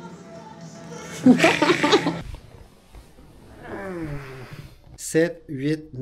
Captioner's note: laughs